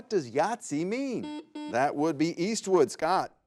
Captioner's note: buzzer buzzes